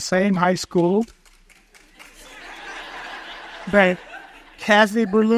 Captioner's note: audience chuckles